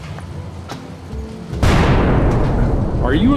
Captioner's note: explosion